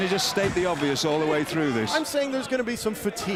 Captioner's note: crowd cheering